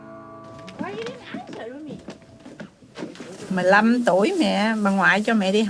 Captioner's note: speaking in a foreign language